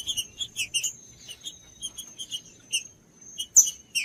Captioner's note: trinca ferro cantando